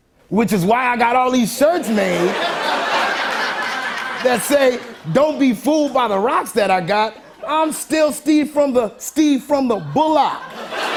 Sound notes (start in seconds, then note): 1.8 laughter; 9.8 laughter and applause